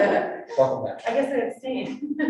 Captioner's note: people laughing